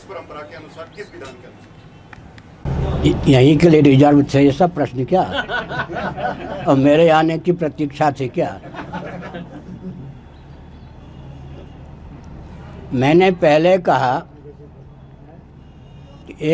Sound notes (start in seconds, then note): 4.2 laughingly